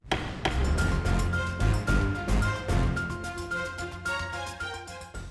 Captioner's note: gavel bangs; dramatic music